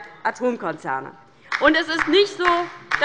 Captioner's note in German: Beifall bei der LINKEN